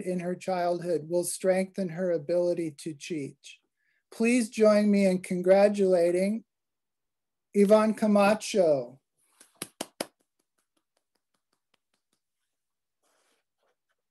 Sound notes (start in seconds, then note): 9.4 claps